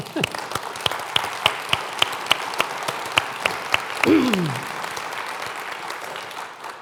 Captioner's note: applause